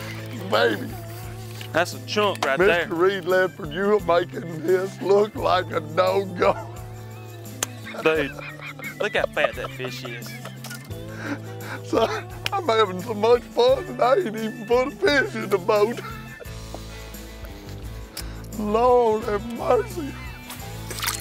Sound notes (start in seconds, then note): 9.8 laughs; 16.1 laughs